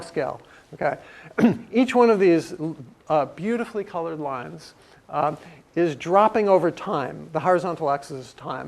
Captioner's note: cough